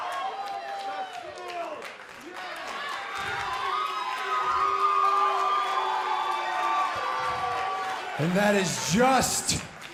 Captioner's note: crowd chatter; crowd cheering